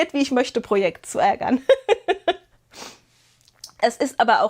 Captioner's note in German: gelächter